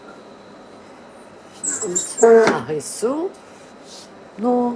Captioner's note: squeaking